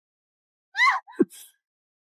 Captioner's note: gasps